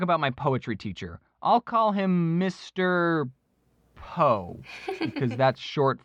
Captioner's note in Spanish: risa